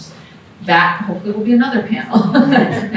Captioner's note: laughter